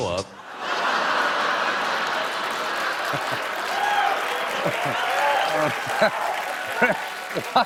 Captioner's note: laughter; applause